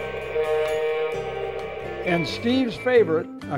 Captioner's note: train horn